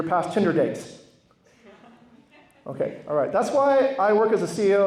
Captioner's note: laughter